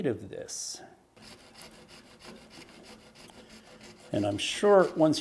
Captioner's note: saw cutting